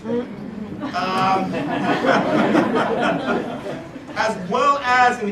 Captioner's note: laugh